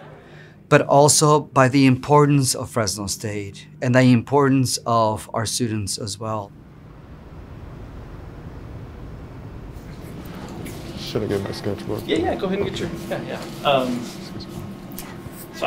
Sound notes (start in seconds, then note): 9.7 indistinct background chatter